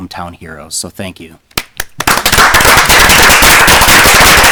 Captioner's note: applauding